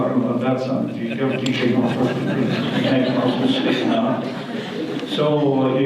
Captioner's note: audience laughter